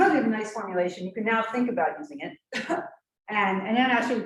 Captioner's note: clears throat